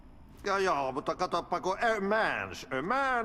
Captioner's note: speaking in foreign language